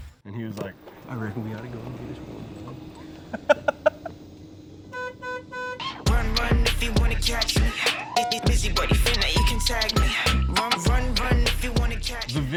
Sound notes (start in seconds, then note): 3.2 laughing; 4.9 horn honking